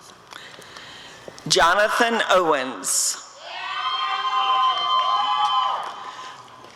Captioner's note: applause and cheering